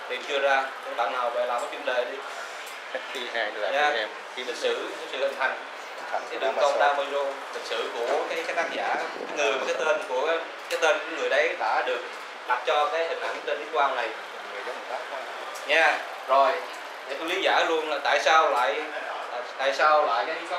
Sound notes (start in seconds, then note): 5.3 students's muemuring